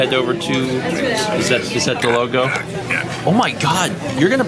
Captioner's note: making pained noises